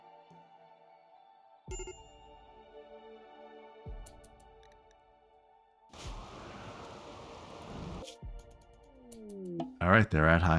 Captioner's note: silence